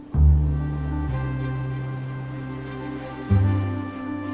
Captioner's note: atmospheric orchestral music; waves crashing